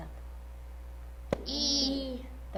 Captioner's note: tap